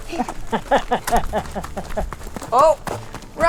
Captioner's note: woman laughs